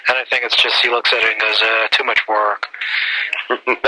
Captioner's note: groans